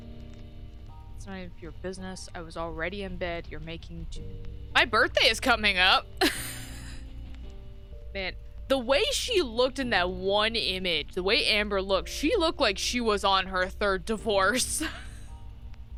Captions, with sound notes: ...It's not even for your business... ...I was already in bed... ...You're making too-- My birthday is coming up! [Laughs] Man, the way she looked in that one image. the way Amber looked, she looked like she was on her third divorce.